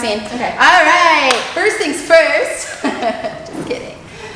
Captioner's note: laughs